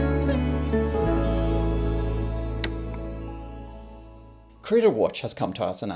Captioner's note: sparkling sounds